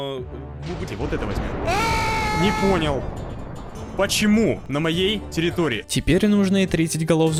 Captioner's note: screaming